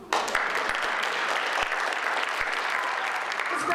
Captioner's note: audience applauds